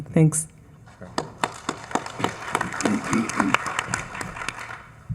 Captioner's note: attendees applauding